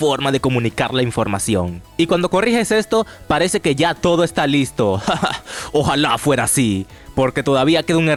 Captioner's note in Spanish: risas